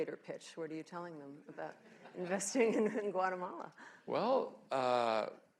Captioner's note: laughter